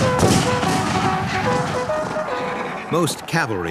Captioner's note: guns bang; horn trumpets